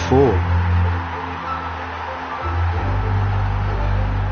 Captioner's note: crowd roaring